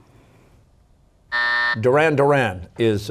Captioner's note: buzzer